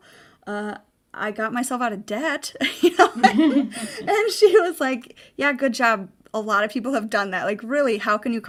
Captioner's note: laughing